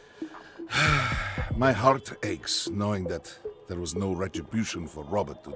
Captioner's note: sighs